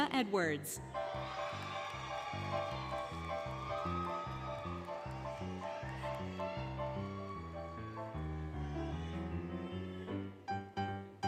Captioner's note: applause, Cheering, Music